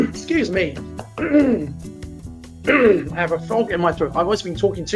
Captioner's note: clears throat